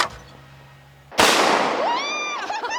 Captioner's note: gunshot; both laughing